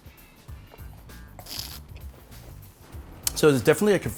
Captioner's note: slurps